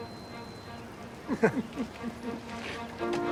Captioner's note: both chuckle